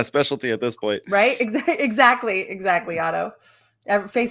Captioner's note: laughs